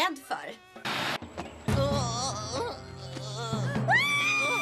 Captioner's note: moaning